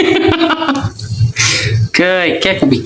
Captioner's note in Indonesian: tertawa